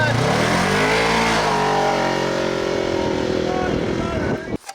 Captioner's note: engine revving